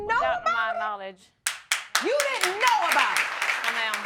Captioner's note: audience clapping